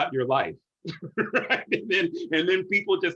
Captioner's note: laughter